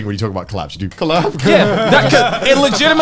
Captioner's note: laughs